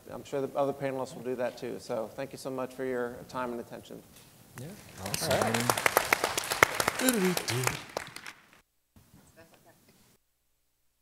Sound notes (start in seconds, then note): 4.8 applause